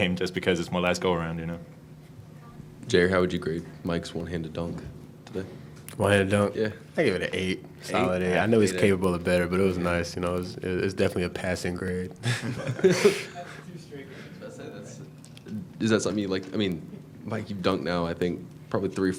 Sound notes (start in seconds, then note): 12.2 laughing; 13.5 murmuring